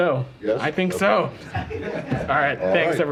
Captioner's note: laughter